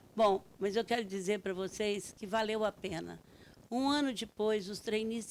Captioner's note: speaking Portuguese